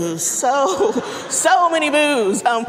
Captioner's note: audience laughing